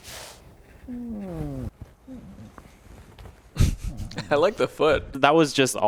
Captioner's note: laughs